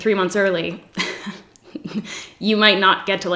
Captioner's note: giggles